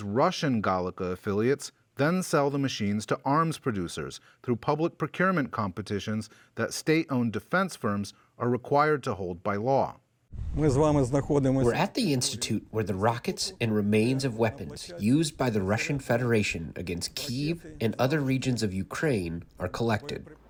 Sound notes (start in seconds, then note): 11.1 through translator